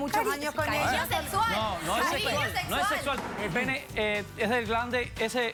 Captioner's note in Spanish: Hablan al unísono